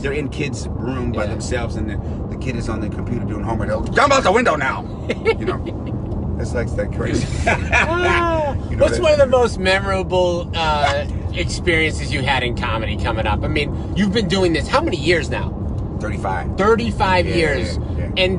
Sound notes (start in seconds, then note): 4.6 driver laughs; 7.1 laughs